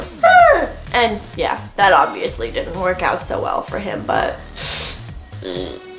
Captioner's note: whimpers